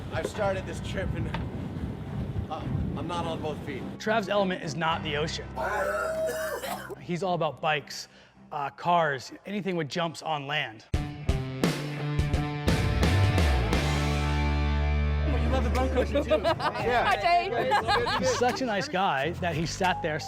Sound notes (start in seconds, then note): 5.6 vomiting sounds; 10.9 rock music